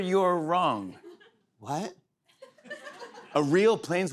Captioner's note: laughter